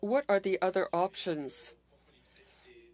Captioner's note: speaking French